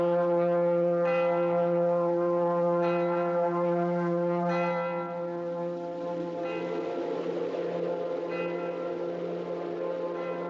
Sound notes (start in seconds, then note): 4.8 wind Blowing